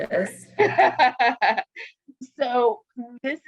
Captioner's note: laughs